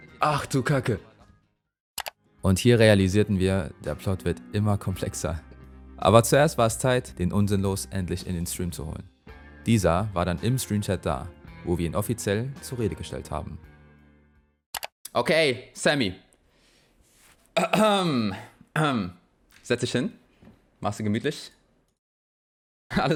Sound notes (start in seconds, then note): 17.6 ahem